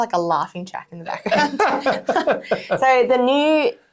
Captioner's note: speakers chuckling